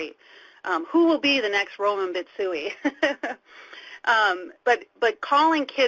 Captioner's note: laughing